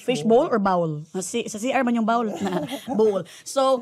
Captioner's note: chuckles